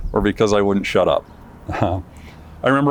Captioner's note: chuckles